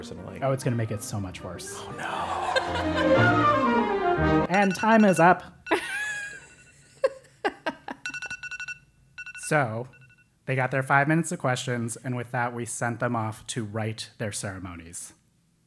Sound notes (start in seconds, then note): 4.3 laugh; 7.0 laugh